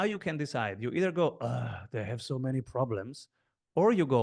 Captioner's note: groans